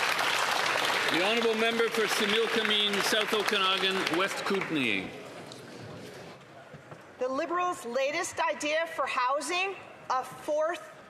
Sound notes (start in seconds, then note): 4.7 some Applause